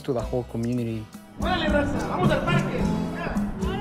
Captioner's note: speaking spanish